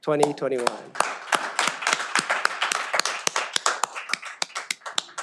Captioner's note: all applaud